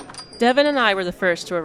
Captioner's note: muted bar ambient sounds